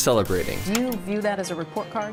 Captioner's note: static buzzes